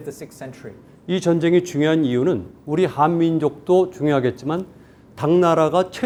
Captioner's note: speaking in Korean